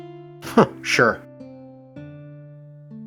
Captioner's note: chuckles